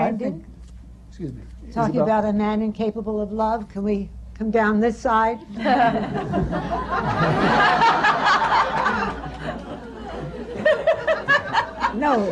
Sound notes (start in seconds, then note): 5.5 laughter